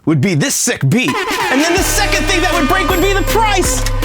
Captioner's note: yelling